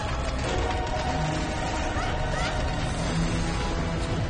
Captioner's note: cries out